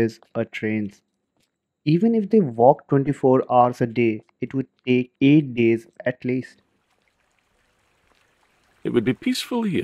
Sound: sound of a river flowing

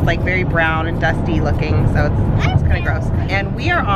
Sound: chattering

